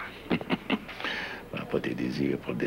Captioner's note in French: Rire sarcastique